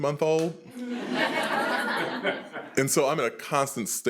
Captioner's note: attendees laughing